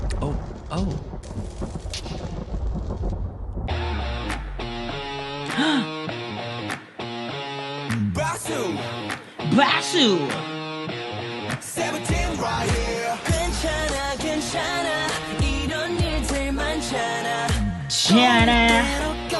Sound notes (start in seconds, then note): 5.5 gasp